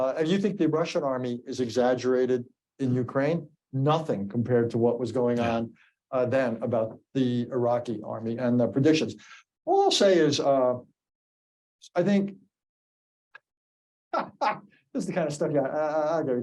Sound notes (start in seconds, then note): 13.1 laughs